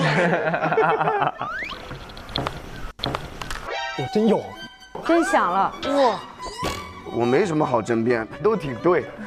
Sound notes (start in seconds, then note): 2.6 click